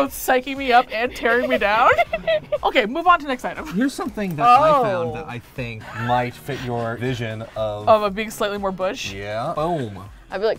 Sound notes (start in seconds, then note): 0.7 laughs